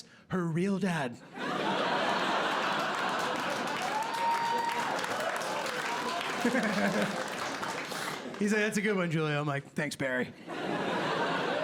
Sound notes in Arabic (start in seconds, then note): 1.4 ضحك; 3.9 هتاف وتصفيق; 5.2 يضحك; 10.3 ضحك